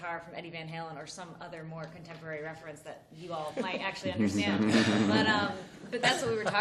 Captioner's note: laughter